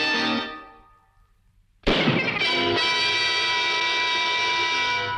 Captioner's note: gun shoots